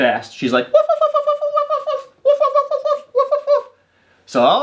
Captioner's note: imitating dog barking